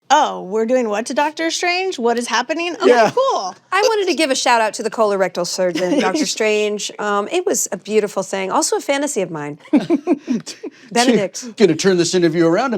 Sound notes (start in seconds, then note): 9.6 others chuckle